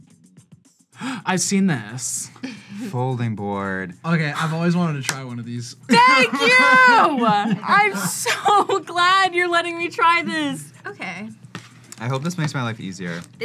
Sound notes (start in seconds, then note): 2.4 gasps; 2.4 laughs; 5.9 laughs